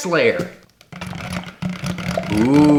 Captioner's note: blender whiring